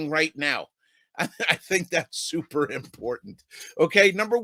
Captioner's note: laughs